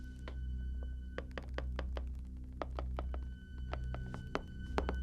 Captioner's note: soft tapping